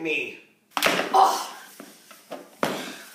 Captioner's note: The Awecher grunts as he starts to stand